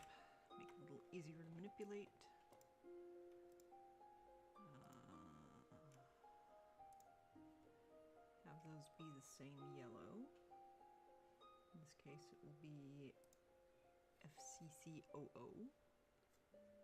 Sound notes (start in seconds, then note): 2.4 mouse and keyboard clicking